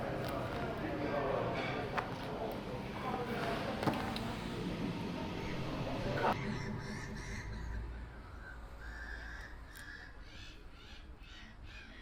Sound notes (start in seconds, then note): 6.4 birds caw